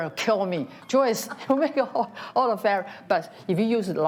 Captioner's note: laughs